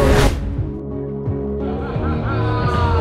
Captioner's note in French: rire